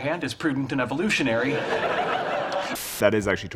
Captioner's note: audience laughing